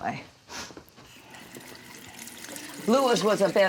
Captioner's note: faucet running